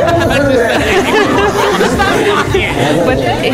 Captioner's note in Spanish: Se pone a reír